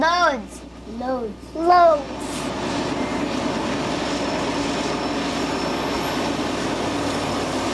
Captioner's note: train whirs